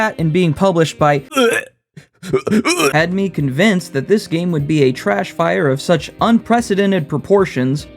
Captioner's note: gagging noises